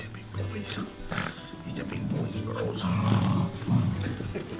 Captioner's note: dog sounds; laughter